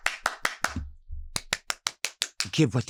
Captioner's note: clapping